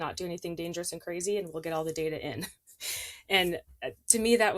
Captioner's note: chuckles